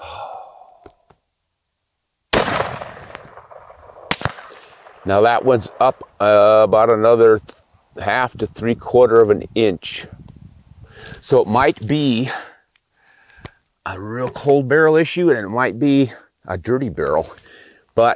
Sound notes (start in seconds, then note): 0.0 exhales; 2.3 firearm shooting